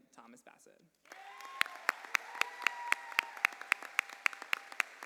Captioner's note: cheers and applause